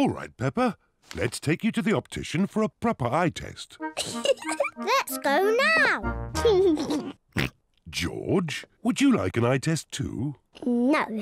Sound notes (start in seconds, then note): 3.9 laughs; 6.4 laughs, snorts